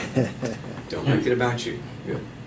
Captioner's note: chuckling